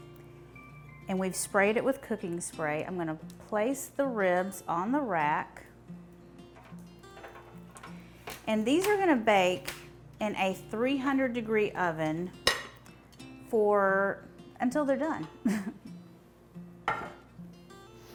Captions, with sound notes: and we've sprayed it with cooking spray. I'm going to place the ribs on the rack. And these are going to bake in a 300-degree oven until they're done. (laughs)